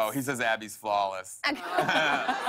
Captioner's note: laughter